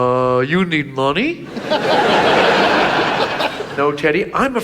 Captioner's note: audience laughs